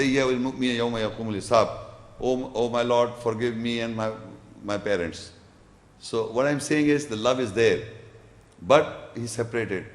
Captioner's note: Arabic